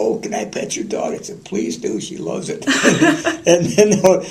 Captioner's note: laughter